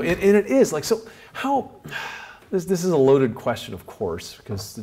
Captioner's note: sighs